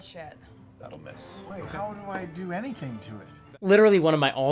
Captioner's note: mutters